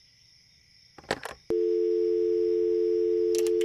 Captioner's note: dial tone; sound of coins being inserted